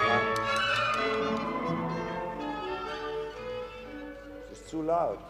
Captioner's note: tapping the music stand